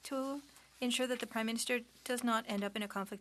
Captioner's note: speaking French